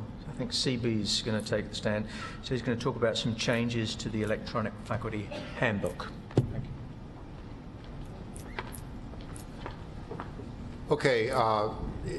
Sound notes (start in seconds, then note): 7.0 footsteps